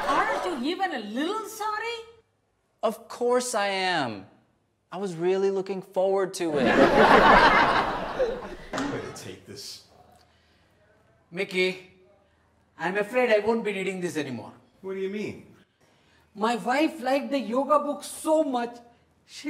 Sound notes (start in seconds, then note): 6.6 audience laughs